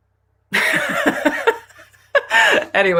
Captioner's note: laughter